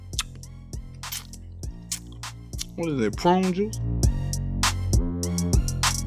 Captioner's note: slurping; lips smacking; intense music